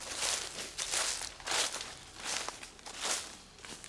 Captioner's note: leaves crackling